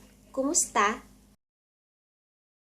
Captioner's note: Tagalog